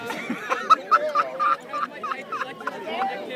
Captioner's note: laughter